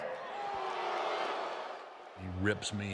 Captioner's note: crowd booing